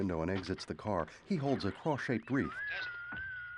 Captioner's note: radio static